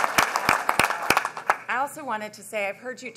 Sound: applause

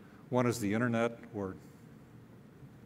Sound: none

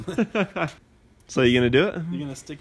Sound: laughing

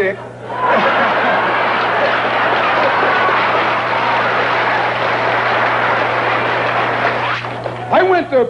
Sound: laughter and applause

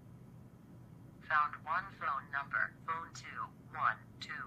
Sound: computer Voice

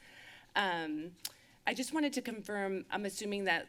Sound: lips smack

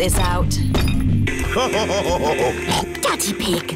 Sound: laughs / honks

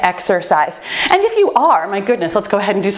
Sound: timer beeps

